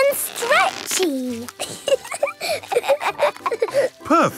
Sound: both laughing

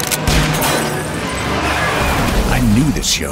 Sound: bang!; car skidding

